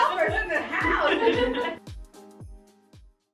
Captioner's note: group laughing